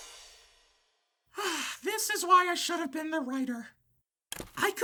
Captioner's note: sighs